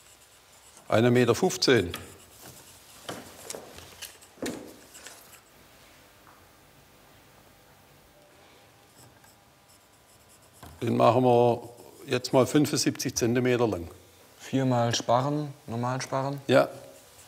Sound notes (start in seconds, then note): 1.2 sound of pencil on paper